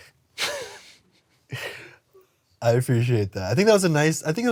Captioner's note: chuckles